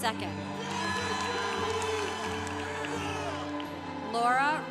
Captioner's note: congregation cheering